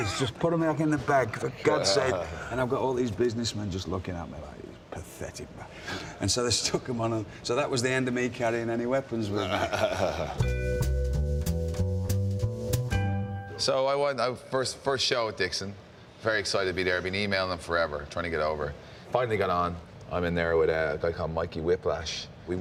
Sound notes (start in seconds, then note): 9.3 Wade laughs; 10.6 jazzy piano melody plays